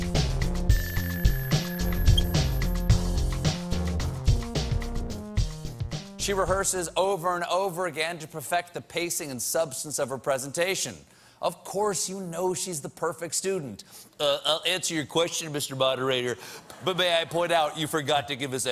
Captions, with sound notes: [Stephen Colbert speaking] She rehearses, over and over again, to perfect the pacing and substance of her presentation. Of course you know she's the perfect student, 'I'll answer your question, Mr. Moderator, but may I point out you forgot to give us